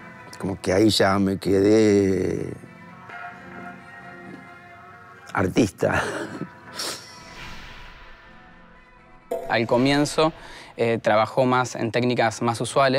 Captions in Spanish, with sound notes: Como que ahí ya me quedé... (Riendo) artista. Al comienzo, trabajó en técnicas más usuales